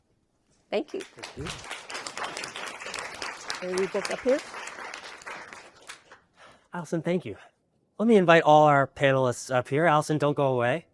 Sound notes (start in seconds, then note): 0.9 applause